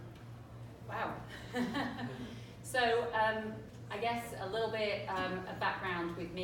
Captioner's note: laughter